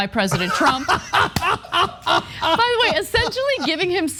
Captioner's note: laugh